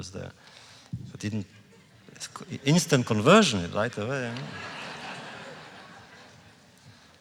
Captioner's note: laughter